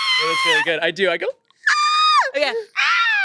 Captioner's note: they scream; screams